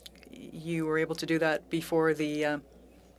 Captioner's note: speaking French